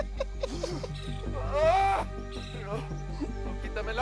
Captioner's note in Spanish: Carcajada; Quejidos